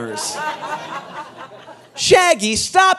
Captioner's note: audience laughing